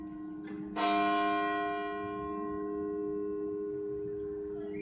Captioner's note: bells tolling